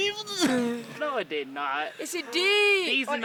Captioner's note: laughing